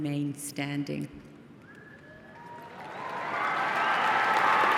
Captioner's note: applause